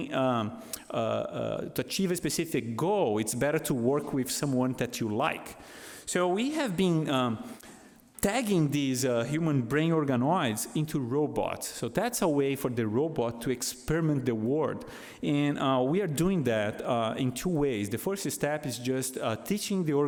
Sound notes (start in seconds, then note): none